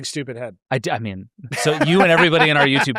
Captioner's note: laughs